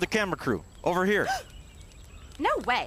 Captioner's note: Heather Gasp